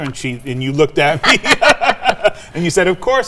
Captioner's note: laughing